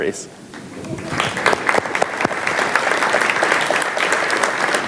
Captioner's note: audience applauds